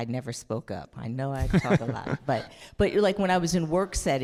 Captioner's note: all laughing